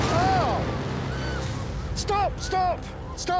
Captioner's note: explosions, volunteers scream